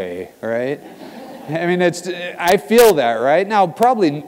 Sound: laugh

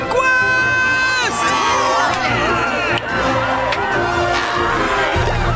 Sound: cheering

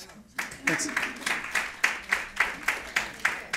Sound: applause

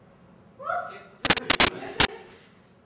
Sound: scream, static noise, laughter, off camera

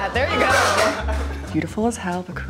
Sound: skateboard skidding

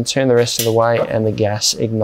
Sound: switch clicking

